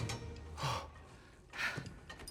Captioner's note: exhale